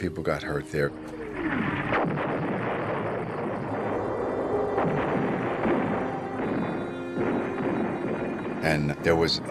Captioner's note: explosions